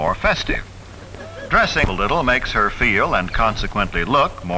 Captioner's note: audio skips and clicks